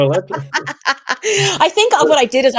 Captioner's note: laughing